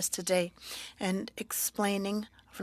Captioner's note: speaking French